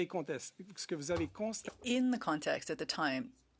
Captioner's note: speaking French